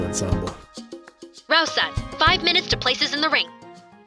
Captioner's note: intercom